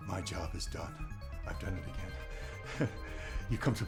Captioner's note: chuckles